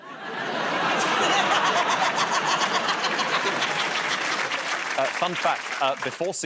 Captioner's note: laughter and applause